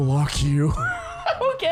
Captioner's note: laughs